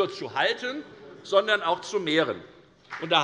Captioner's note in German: Beifall bei der FDP